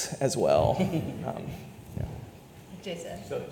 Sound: audience laughs

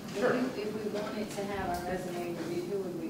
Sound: voiceover

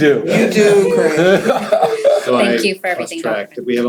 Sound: laughter

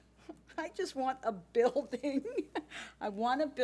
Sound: laughs

